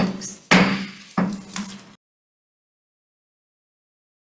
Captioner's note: gavel bangs